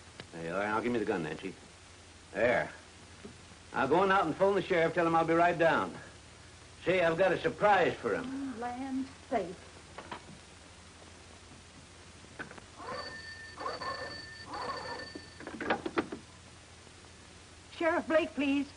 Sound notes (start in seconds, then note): 12.7 phone rings